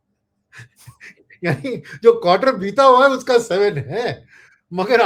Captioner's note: laughter